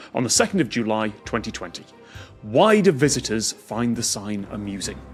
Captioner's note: none